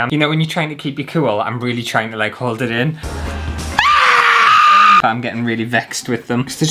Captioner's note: screams!